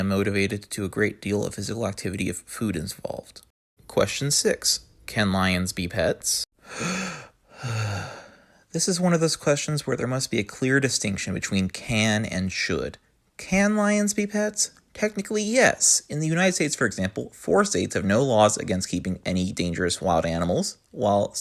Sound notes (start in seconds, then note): 6.6 heavy breath in and heavy breath out